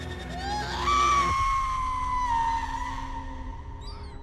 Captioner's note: Sandy screams